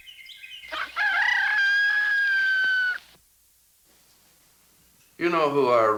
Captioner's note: birds chirping; rooster crows